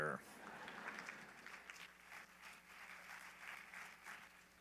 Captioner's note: laughter, applause